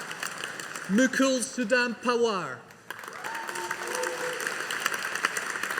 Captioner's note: audience applauding